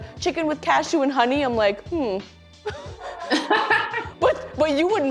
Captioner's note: laughter